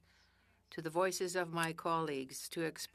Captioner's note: speaking French